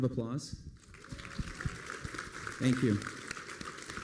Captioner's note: applause